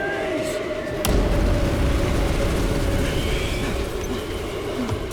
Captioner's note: wind whirling